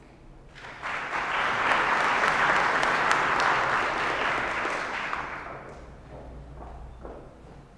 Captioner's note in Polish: oklaski